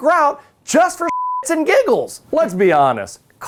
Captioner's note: beep